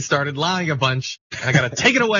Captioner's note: laugh